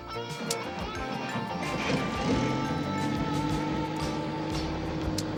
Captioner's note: helicopter whirring